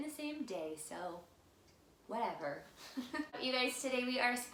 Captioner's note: laughs